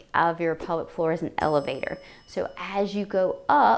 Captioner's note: elevator dinging